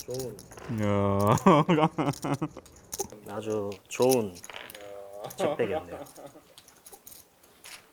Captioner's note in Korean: 웃음